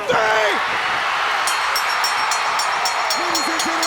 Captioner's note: crowd cheers; bell rings